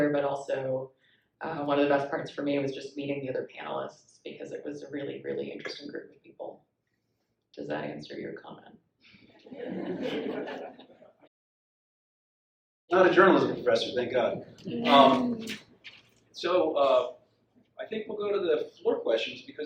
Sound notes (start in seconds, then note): 9.4 audience laughs